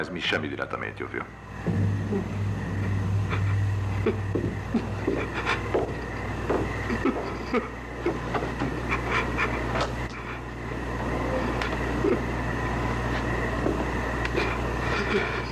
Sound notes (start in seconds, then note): 8.8 sniffling